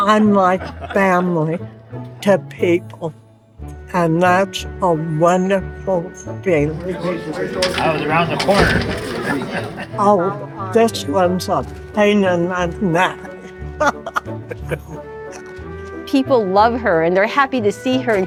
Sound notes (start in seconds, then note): 12.8 laughing